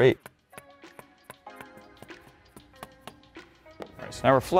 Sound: soft upbeat music; hammer thuds

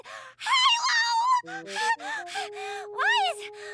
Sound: panting

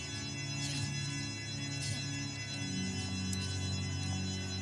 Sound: Patrizia speaks Italian

